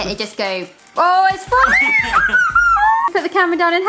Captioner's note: Barry's daughter screaming